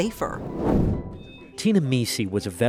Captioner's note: air whooshes